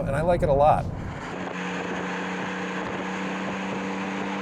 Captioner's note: engine revs